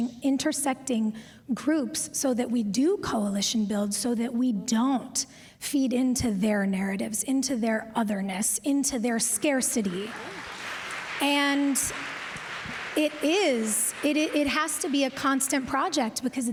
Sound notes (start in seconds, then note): 9.4 applause